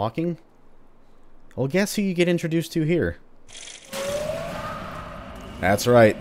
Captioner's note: Trash Hags howl, Haunt wailing in the distance